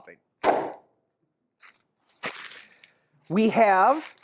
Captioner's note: loud pop of paper bag